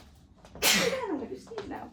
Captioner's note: sneezing